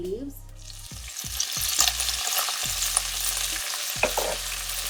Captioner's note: ingredients sizzling